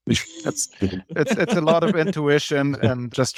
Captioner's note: laughs